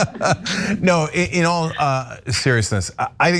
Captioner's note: laugh